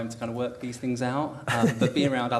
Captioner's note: laughs